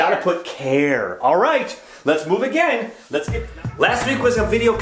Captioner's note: voice fades